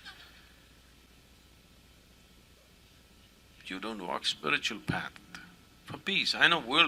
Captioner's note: laughter